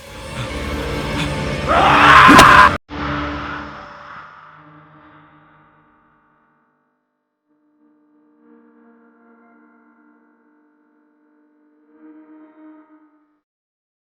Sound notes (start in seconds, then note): 0.0 suspenseful music; 1.6 screaming; 4.7 dramatic music